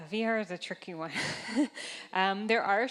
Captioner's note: chuckling